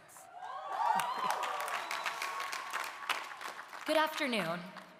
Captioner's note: audience cheering; audience applauding